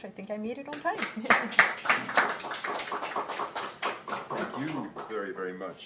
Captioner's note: applause